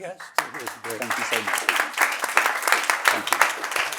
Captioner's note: audience applauds